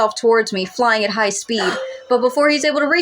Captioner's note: gasp